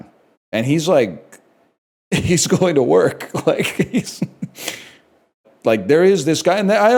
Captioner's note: laughs